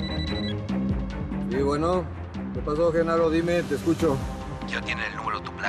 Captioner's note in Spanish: suena el teléfono